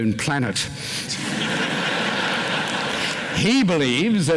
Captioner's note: laughter